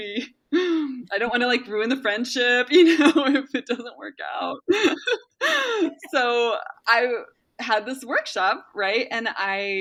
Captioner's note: laughs